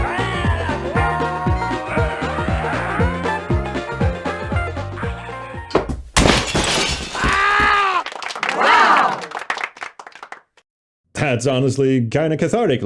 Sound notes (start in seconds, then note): 5.7 crash; 7.2 yokel applause; 8.4 agonized screaming